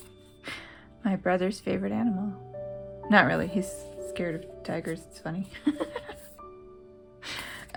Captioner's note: laugh